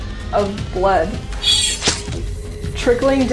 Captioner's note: knife slashing